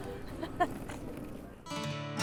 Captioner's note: laughing